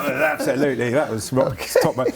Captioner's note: laughs